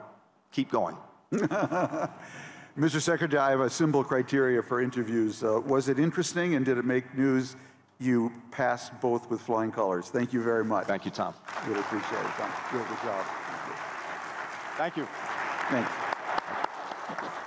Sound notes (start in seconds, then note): 1.3 laughter; 11.4 applause